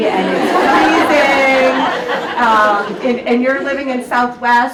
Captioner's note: audience laughs